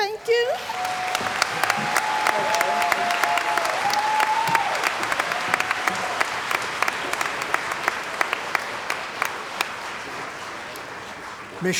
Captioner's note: cheering & Applause